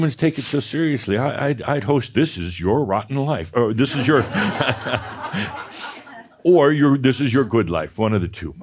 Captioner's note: laughter